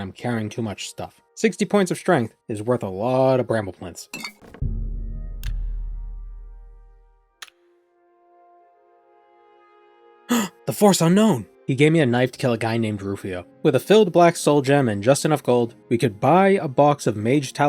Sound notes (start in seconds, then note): 3.7 gasp